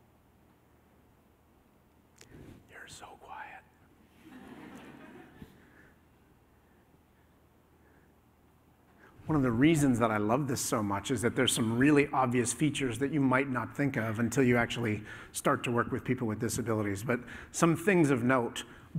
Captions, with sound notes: (WHISPERING) You're so quiet. [LAUGHTER] One of the reasons that I love this so much is that there's some really obvious features that you might not think of until you actually start to work with people with disabilities. But some things of note--